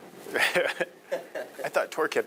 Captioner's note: laughing